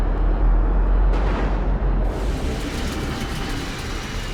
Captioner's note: thunder rumbles